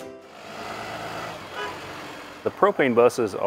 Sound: car engine revving

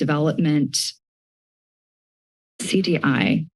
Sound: silence

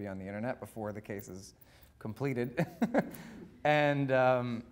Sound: laughing

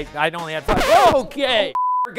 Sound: record scratch

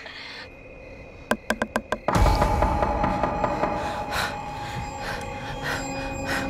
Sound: music intensifies; wood knocks

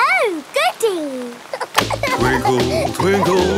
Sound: giggling

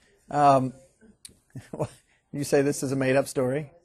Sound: scattered chuckling

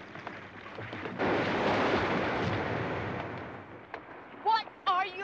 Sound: trees crashing

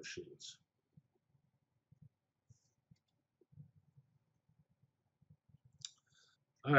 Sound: pause

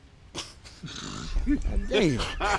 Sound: laughing

